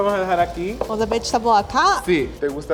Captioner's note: speaking Spanish; speaks Spanish; speaking Spanish